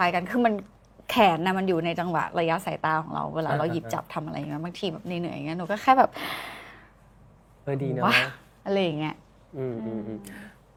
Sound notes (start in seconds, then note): 9.6 sighs